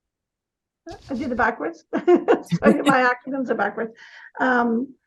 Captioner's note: laughing